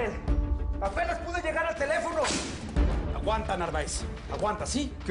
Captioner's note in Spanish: Disparos